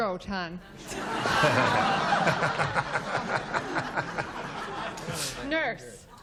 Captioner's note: laughter